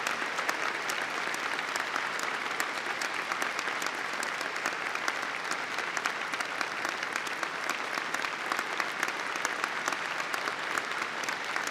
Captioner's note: applause